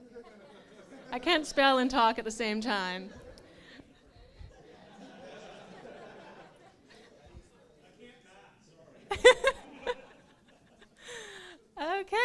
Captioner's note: laughs